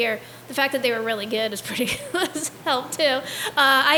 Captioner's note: laughs